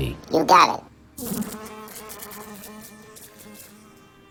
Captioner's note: buzzing